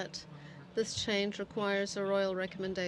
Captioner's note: speaking French